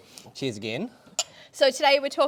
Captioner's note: glasses clinking